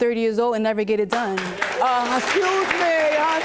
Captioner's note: applause